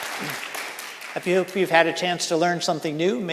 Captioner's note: audience and panelists applauding